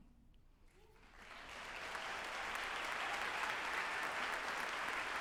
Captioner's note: group applauding